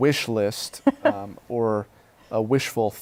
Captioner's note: laughter